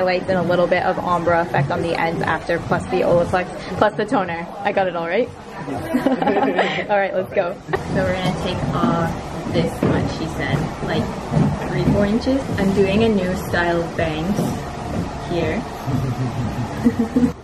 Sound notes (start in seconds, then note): 5.7 both laugh; 15.8 both giggle